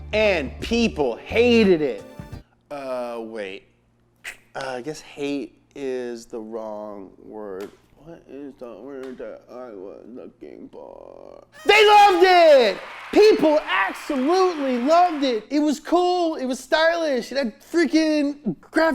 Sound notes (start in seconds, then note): 11.6 people cheering; 12.5 party blowers blow